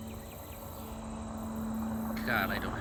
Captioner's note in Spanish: vehículo acercándose